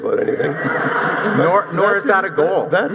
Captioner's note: audience laughing